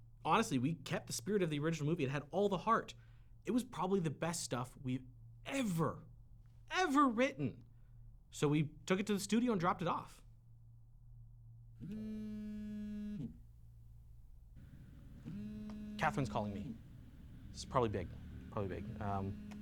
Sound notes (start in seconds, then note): 12.4 phone buzzing